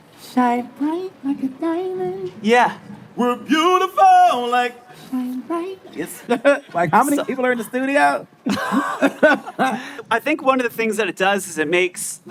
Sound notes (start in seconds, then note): 3.6 vocalizing; 8.4 laughing